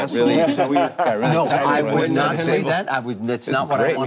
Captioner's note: group laughing